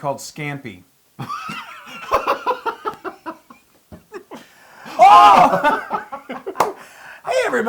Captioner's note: laugh